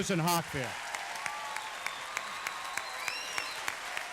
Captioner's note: applause